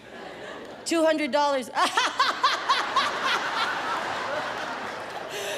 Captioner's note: imitates laughter